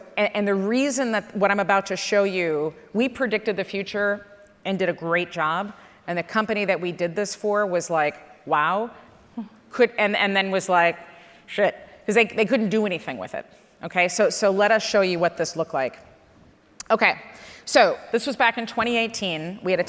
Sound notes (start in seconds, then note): none